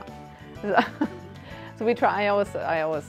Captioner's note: laughs